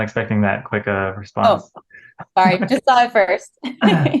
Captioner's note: chuckles